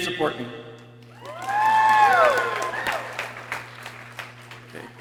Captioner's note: people cheering